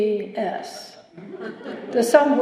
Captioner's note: laughter